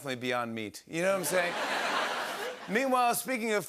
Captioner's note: laughter